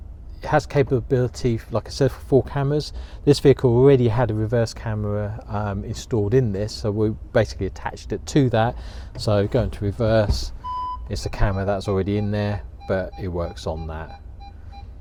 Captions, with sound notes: It has the capability for 4 cameras this vehicle already had a reverse camera installed in this so we basically attached it to that - so if you go into reverse (beep) its the camera that's already in there but it works on that.